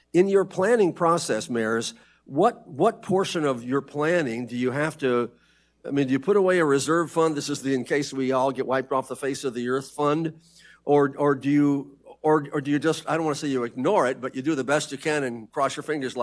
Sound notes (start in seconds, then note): none